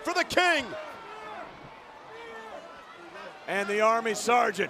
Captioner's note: crowd cheering